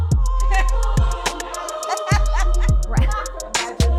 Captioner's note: all laugh